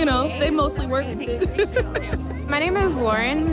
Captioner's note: laughs